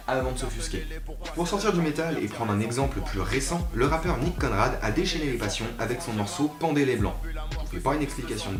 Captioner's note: french